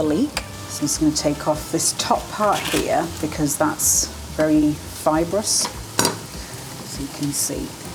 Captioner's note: crunch